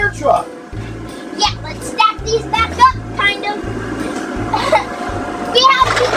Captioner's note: laughs